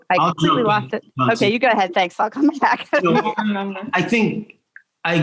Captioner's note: laughs